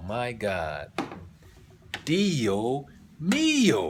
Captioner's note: italian